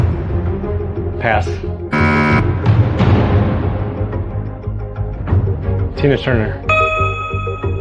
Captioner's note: buzzer sounds